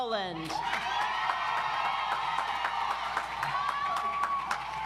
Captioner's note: audience applauds